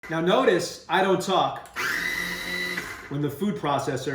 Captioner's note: food processor runs